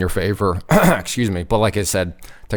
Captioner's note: clears throat